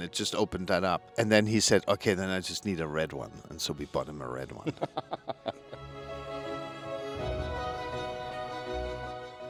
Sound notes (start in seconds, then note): 4.6 laughs; 6.1 light music